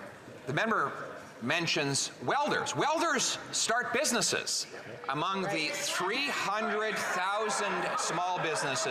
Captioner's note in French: voix de l'interprète